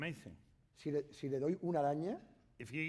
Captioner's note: speaking spanish